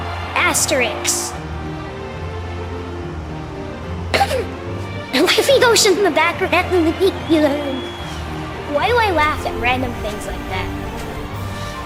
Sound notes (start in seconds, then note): 5.1 giggles